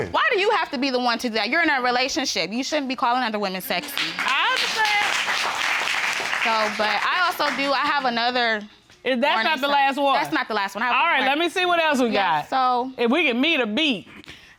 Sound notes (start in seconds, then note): 3.8 audience applauding